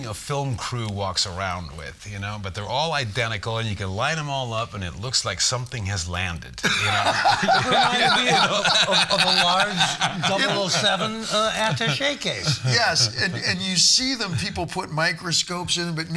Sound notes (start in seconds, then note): 7.1 all laughing